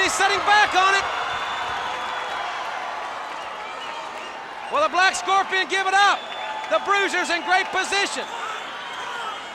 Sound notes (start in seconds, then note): 2.2 crowd cheering; 2.2 crowd whistling